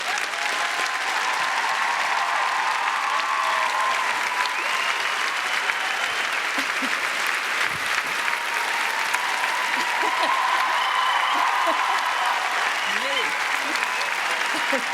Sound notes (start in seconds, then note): 0.0 cheering and applause; 6.4 laughs